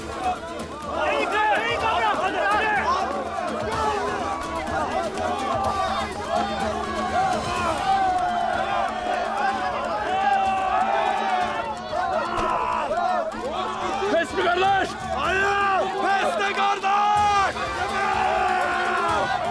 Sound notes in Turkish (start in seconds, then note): 6.8 Bağrışma sesleri